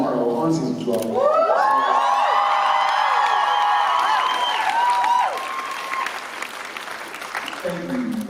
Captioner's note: applause